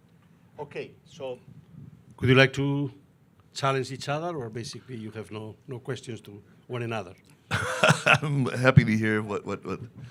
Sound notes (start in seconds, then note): 7.5 laughing